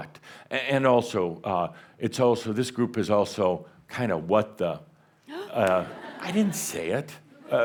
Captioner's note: gasps and some chuckles